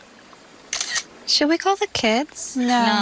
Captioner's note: camera clicks